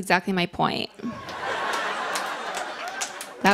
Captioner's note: laughter